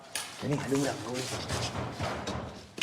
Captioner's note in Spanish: golpes a la puerta